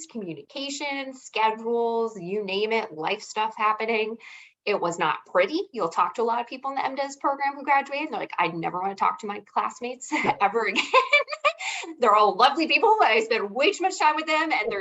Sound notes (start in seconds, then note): 10.6 laughing